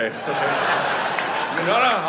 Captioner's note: audience laughing